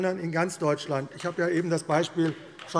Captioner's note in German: Beifall AfD